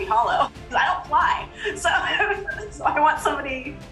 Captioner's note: laughs